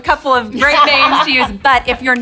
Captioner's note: laughing